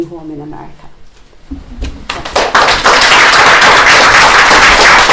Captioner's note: applause